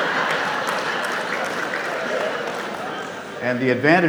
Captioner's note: audience clapping